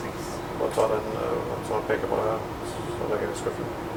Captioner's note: In Norwegian